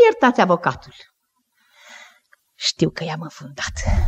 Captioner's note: none